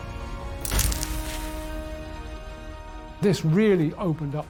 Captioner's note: camera snapping